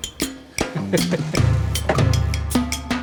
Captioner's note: laughs